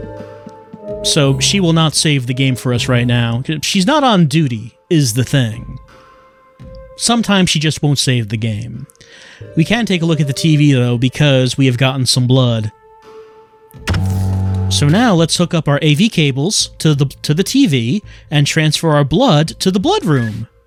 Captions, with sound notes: So, she will not save the game for us right now. She's not on duty, is the thing. Sometimes she just won't save the game. We can take a look at the TV though, because we have gotten some blood. [Low analog humming, brief static] So now let's hook up our A/V cables to the TV and transfer our blood to the blood room!